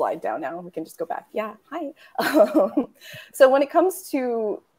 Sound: chuckling

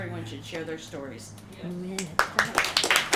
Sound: applause

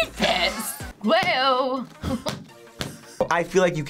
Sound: laughs

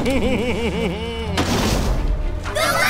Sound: giggling

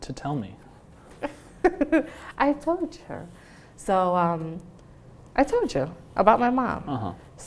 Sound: laughs

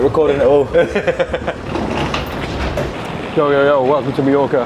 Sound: laughing

